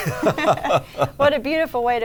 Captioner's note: both laugh